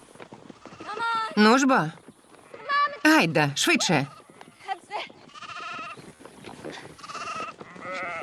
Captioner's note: sheep bleating